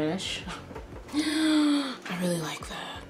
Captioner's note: gasps